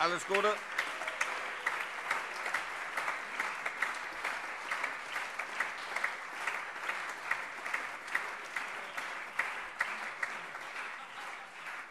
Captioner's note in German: Allgemeiner Beifall